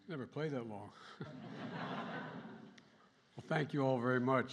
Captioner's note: laughter